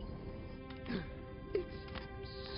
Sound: gasps

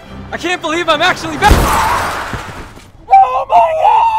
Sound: shattering; screaming

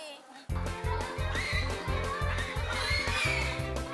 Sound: pig squealing

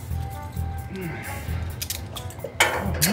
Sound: Donny grunts

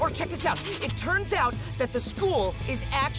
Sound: none

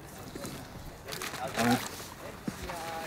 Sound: none

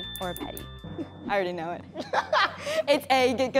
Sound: laughing

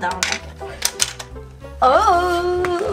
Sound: toy clicks

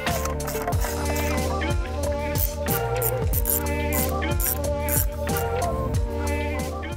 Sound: upbeat music; wrench whizzes

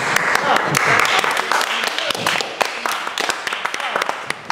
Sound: magicians clapping

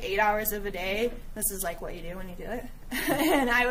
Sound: giggling

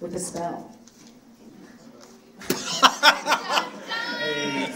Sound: laughing

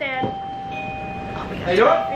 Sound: doorbell rings

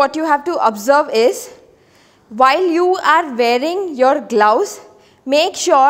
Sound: inhaling

